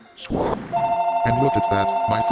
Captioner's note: phone ringing